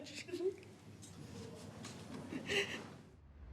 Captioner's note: both crying